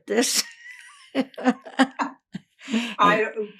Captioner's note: laughing